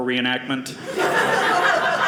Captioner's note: audience laughing